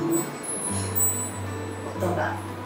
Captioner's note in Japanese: オーナメントが鳴る音